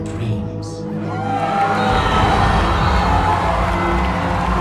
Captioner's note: cheers